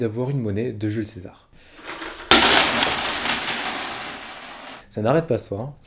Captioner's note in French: Bruit de monnaies qui tombent